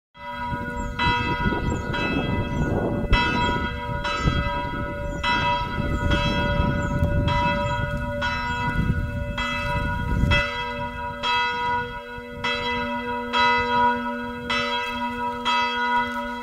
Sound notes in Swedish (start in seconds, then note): 0.9 kyrkklockor